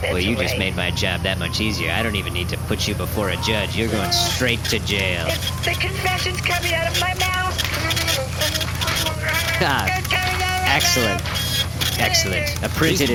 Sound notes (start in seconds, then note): 0.0 quietly; 5.2 printing; 8.1 muffled mouth sounds